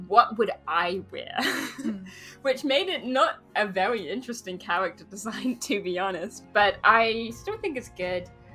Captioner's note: laughs